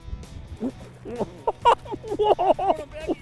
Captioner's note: laughter; voiceover